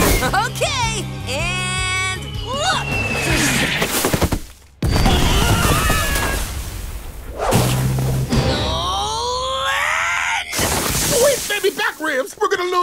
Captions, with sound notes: Okay. And, look. [screaming] [groaning] Sweet baby back ribs. We're going to lose.